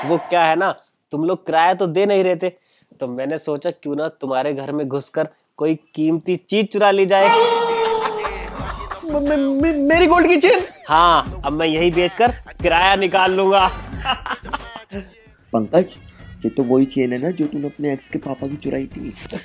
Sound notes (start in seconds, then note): 13.6 laughing